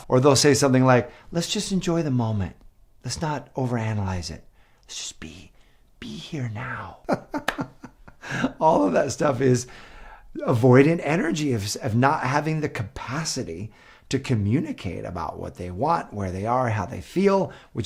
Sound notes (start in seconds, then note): 6.9 laughs